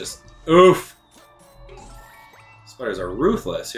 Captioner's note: gaming sounds